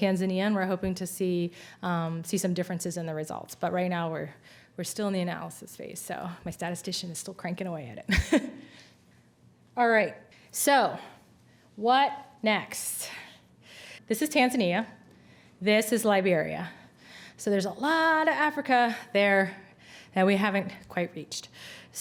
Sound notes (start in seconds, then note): 8.1 chuckles